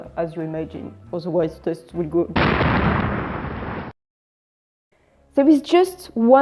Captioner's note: boom